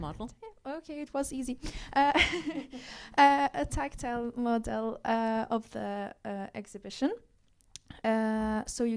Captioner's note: laughs